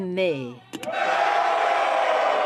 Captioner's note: speaking French